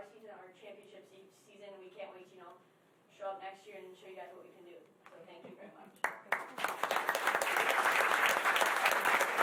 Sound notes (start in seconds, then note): 6.0 applause